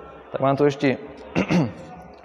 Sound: cough

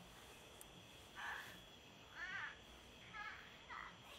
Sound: Ella coos

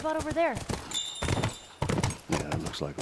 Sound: indicator chime

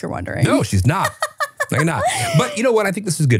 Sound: laughing

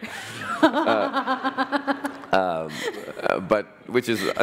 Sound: laughter

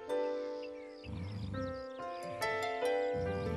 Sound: snoring continuing; sighing; snoring

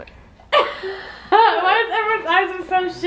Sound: laughing

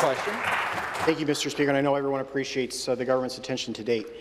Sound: some Applause

